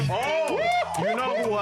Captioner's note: cheering